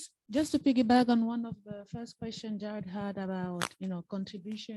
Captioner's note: microphone Interference